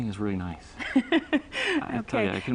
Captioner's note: laughter